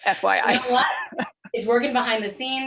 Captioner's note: laughter